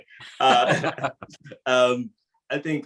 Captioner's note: laughs